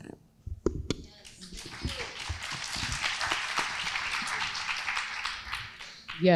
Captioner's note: crowd applauding